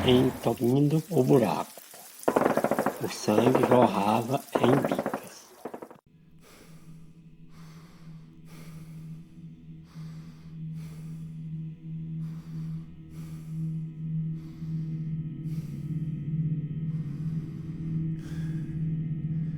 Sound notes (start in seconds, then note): 6.4 increasingly weak breath